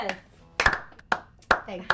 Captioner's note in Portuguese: Kia batendo palmas; batendo palmas